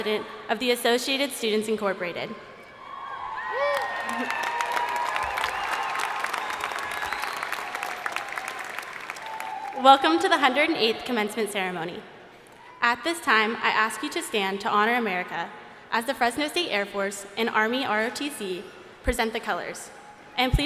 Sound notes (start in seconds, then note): 2.6 crowd cheering; 2.9 crowd applauding